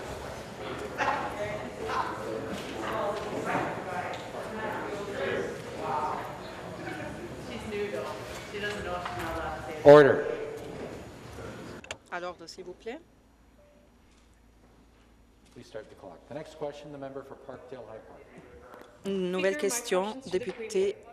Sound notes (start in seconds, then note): 3.3 conversation din